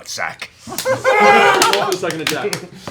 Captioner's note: laughter